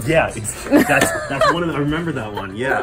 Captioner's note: laughter